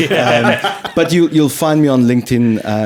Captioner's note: laughing